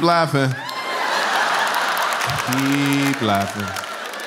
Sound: laughter

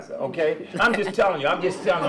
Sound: laughter

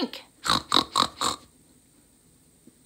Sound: snorting laughter

